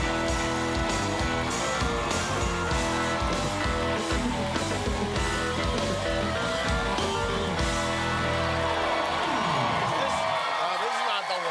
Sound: cheers and applause

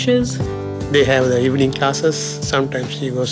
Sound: voiceover

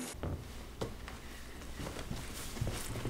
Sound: footsteps

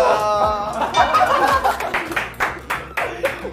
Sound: bursts out laughing

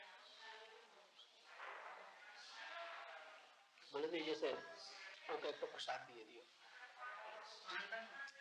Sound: Hindi

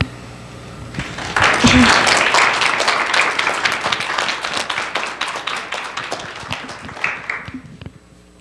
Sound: applause

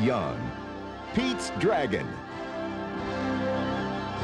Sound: narrator reading

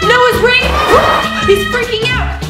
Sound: air whooshing; screaming

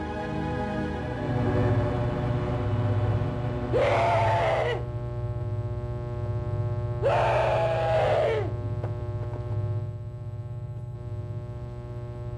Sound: laser noises; screams

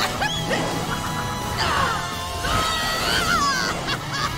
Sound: grunting

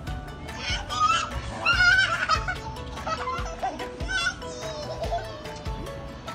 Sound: giggles

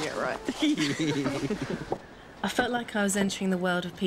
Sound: laughs

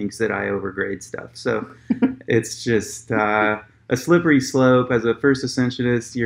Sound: laughs

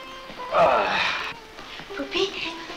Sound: sighs

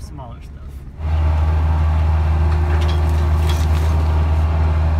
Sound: machine whirring

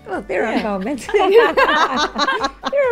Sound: Laura and Jessica laugh

